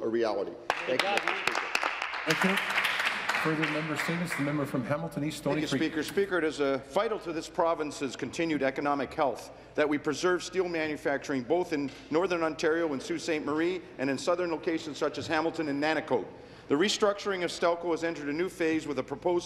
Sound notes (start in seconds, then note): 5.5 applause